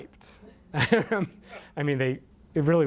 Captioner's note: laughs